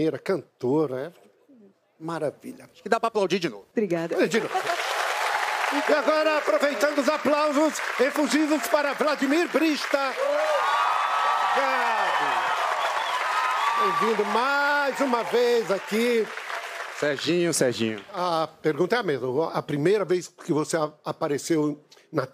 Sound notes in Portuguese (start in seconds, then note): 9.5 aplausos; 14.9 gritos; 15.3 aplausos